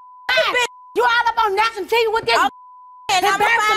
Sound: beep

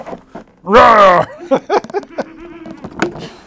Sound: laughs

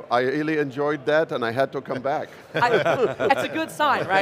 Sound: chuckles

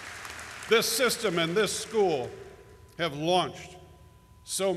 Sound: applause

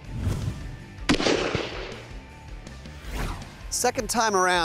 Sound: gunshot

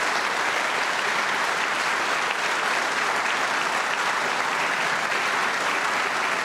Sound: applause

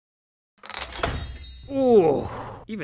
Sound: door clicks

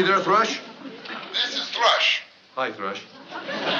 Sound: on walkie-talkie

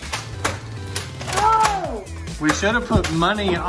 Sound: guns clicking

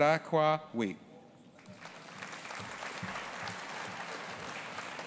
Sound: audience applauding

